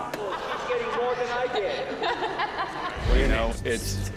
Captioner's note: laughs